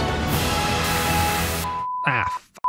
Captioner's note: TV static